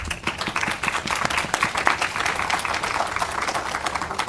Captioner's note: audience applauding